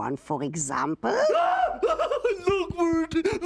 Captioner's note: screaming